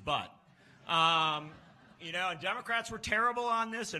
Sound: laughs

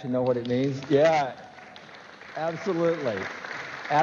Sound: applause

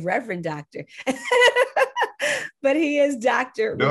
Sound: laughs

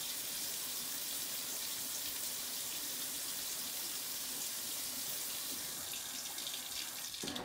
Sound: running water

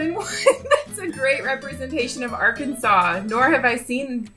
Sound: laughing

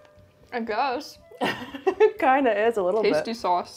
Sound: laughs

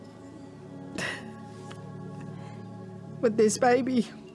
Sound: sobbing

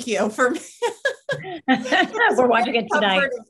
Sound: panel laughs

